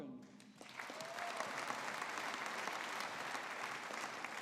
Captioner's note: audience applauding